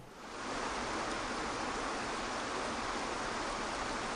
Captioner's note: waterfall rumbling